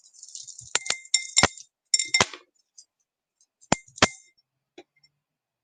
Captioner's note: stones clink against glass